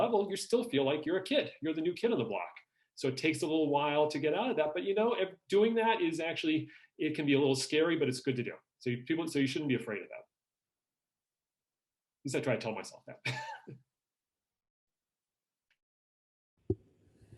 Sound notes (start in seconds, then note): 14.7 laughs